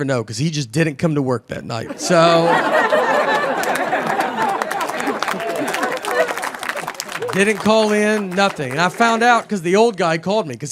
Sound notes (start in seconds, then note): 2.2 audience applauding